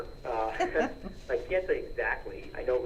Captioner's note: laughing